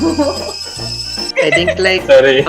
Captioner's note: laughs